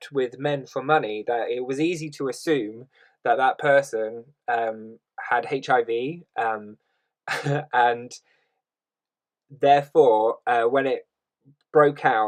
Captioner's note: laughs